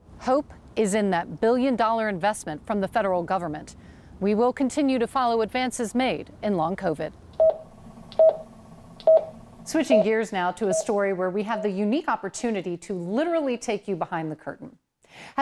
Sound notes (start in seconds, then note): 7.4 machine beeping